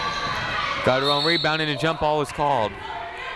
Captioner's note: whistle